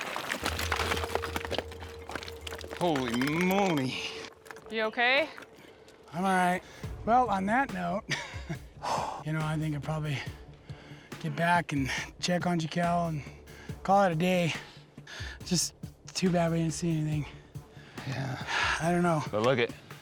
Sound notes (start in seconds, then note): 0.0 loud cracking sound, rock falling; 9.8 exhales